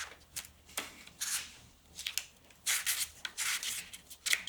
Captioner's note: paper rustling